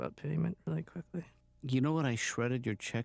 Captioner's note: whispers